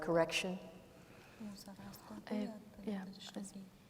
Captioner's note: speaking kurdish